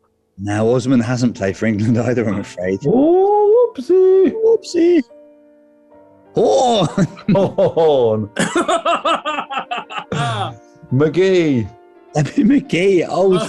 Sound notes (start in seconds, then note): 8.3 chuckling; 8.4 chortling